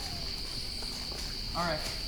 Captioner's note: crickets chirping